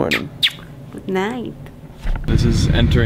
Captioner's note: lips smooching